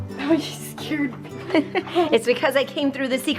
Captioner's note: mom chuckling